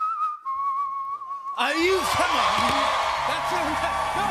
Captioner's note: cheers and applause